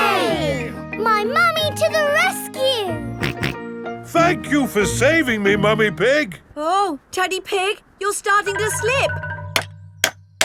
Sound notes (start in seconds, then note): 4.0 snorting; 10.2 clanking